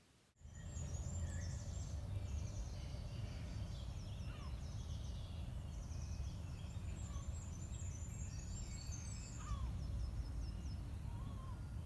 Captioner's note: bird song